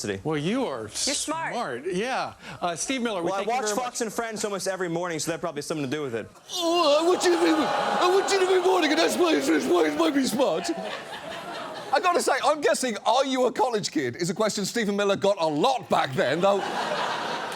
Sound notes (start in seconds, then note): 6.4 studio audience groans; 16.3 studio audience laughs